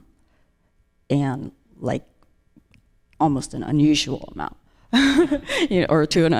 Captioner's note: laughs